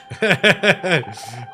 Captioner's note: laughs